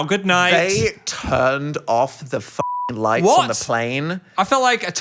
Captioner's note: beep